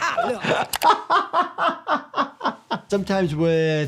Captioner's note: laughter